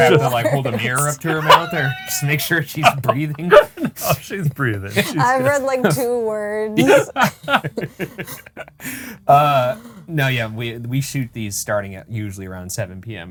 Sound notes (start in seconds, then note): 6.7 group laughing